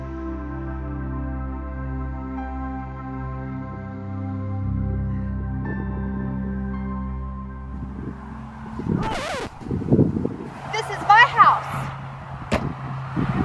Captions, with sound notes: (scratched record) - This is my house!